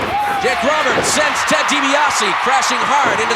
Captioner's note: audience cheering